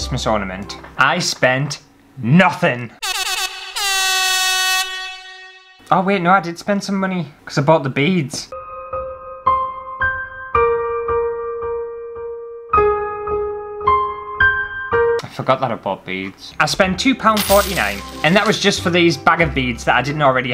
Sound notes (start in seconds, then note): 3.0 air Horn Sounds; 8.5 sad Music